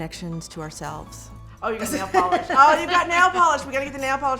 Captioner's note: laughing